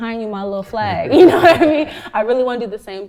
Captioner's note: laughs